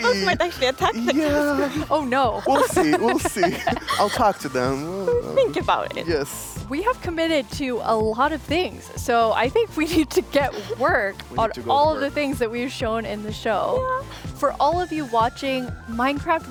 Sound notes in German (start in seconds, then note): 4.1 kichert